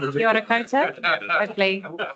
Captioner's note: audience chattering; speaking te reo Māori